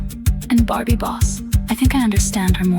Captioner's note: female voice 1